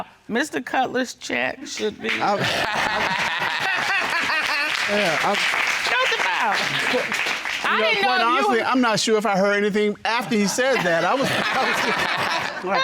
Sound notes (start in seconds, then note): 1.8 audience applauding; 2.0 all laugh; 10.2 all laugh